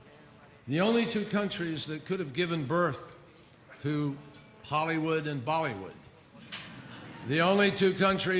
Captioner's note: laughter